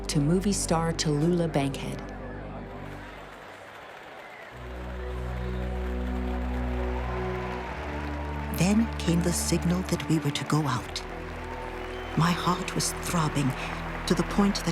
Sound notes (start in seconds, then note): 2.7 applause